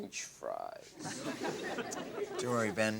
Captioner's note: audience laughs